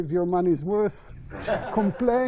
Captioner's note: laughter